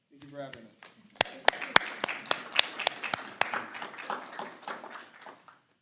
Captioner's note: audience applauding